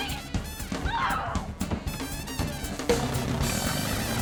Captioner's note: grunting